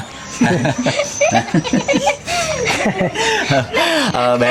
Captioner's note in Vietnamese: tiếng cười